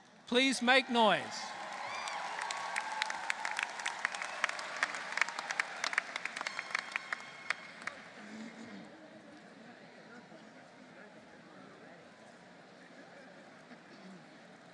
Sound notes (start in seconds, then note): 0.7 applause